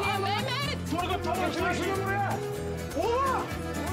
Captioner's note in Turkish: Bağrışma sesi